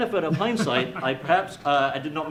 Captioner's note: laughing